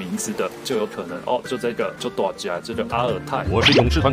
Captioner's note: Taiwanese